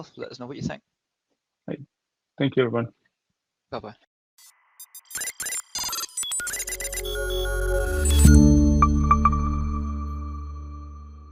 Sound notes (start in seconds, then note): 4.7 graphics beeping; 8.5 logo chiming